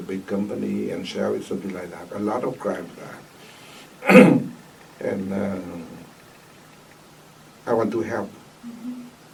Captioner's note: coughs